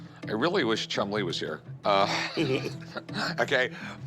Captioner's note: both laugh